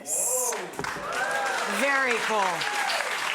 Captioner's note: audience applauding